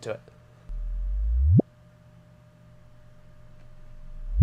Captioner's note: electronic rising tones